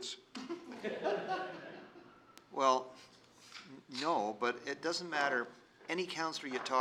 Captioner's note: laughter